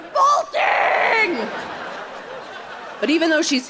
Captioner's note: audience laughing